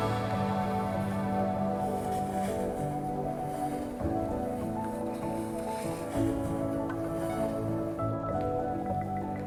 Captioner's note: brushing snow